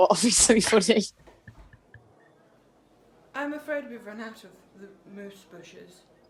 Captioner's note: Sketch audio plays